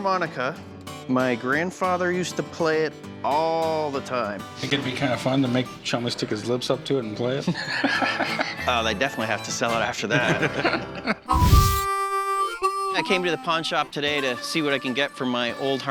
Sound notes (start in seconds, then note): 7.5 laughs; 10.0 laughter